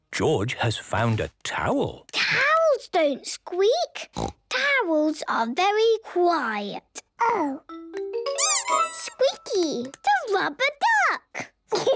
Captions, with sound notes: - George has found a towel! - Towels don't squeak! Towels are very quiet. - Oh. - (squeaks) - Squeaky! - The rubber duck!